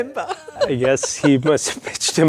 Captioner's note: both laugh